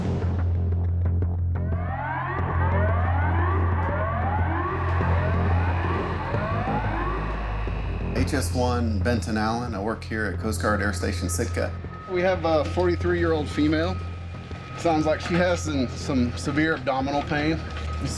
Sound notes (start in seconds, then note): 2.5 sirens blaring